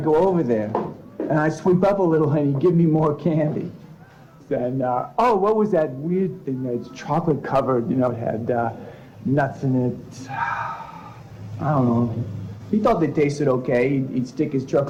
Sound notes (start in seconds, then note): 10.1 sighs